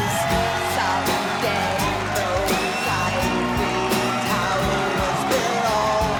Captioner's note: crowd cheering